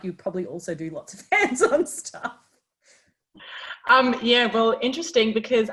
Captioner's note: laughs